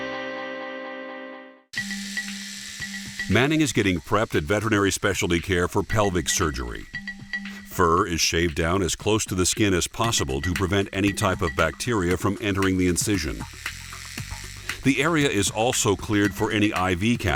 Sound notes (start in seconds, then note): 9.6 shaving machine whirling